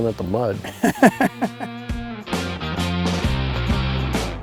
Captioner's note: laughing